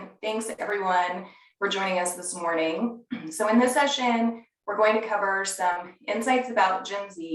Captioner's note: cough